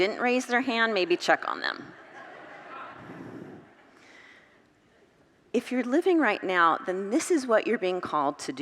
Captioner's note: congregants laugh